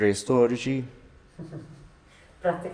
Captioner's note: chuckles